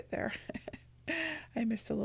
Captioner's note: laughs